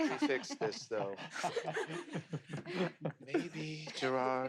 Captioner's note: laugh